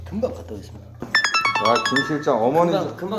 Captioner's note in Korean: 문자알림